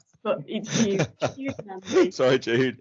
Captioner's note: laughter